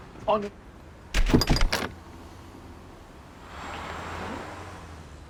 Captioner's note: door slamming